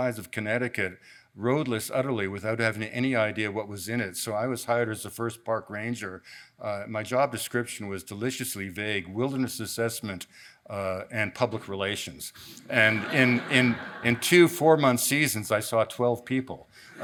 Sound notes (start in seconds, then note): 12.7 audience laughs